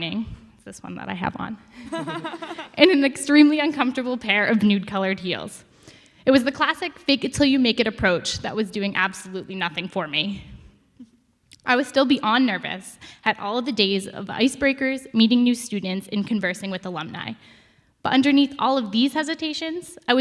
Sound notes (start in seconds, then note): 1.8 audience laughs